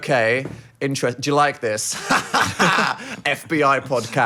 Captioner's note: both laughing